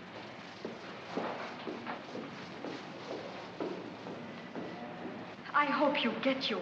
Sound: Mac's footsteps

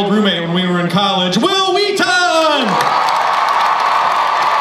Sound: crowd applauds

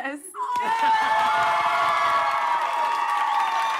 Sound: crowd cheering

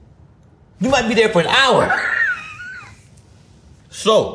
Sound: laughs

